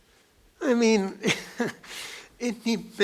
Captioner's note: laughs